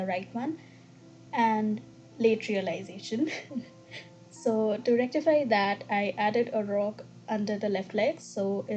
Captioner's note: giggles